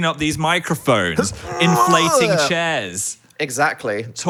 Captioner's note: groans